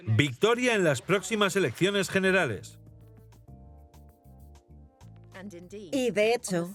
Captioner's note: audience applauding